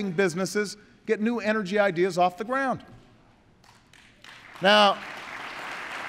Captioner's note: applause